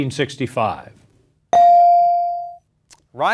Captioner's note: bell dings